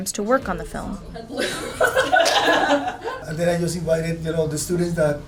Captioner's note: laugh